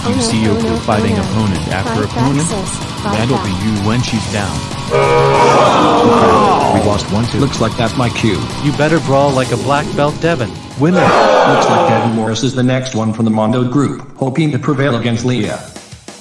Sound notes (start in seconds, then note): 4.9 horn sound, audience gasping; 4.9 exclaims; 10.8 audience groaning